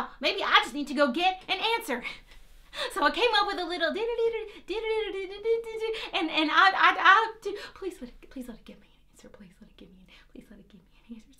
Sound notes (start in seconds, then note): 4.6 hums a melody